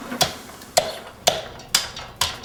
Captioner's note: chopping sounds